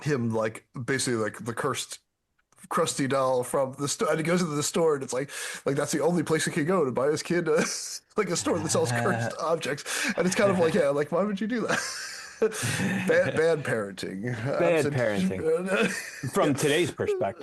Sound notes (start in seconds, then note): 13.4 laughing